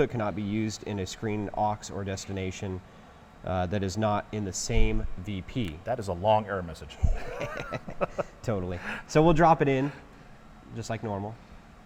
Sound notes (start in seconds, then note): 7.0 both laughing